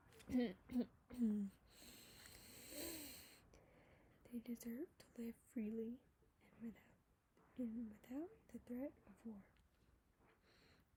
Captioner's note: clears throat